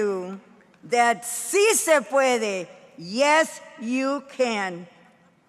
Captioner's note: speaking in foreign language